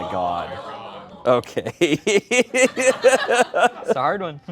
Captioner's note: laughs